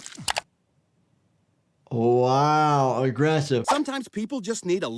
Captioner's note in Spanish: chasquido del teclado